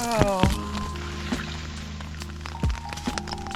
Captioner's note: splosh